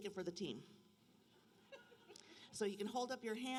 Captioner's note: laughter